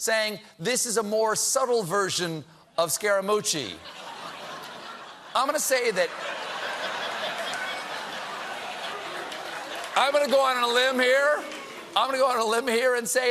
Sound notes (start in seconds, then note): 8.4 laughter